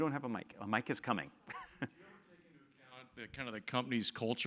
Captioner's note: laugh